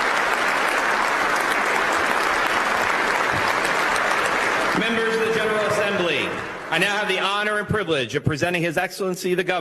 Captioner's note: applause